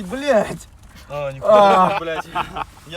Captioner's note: laughing